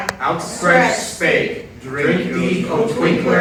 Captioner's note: in Unison